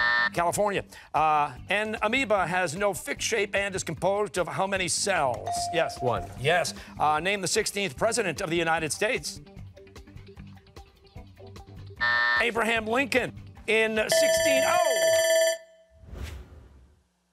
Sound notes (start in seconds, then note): 12.0 buzzer; 14.0 bell ringing